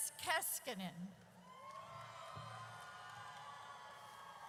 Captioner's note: audience cheers